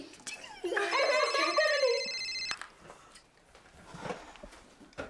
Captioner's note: cell phone rings